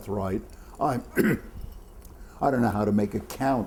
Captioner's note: coughs